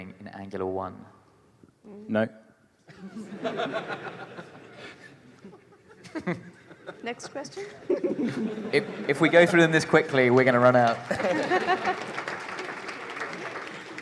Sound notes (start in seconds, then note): 2.8 laughter; 13.8 applause